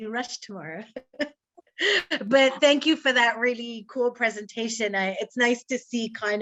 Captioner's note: laughs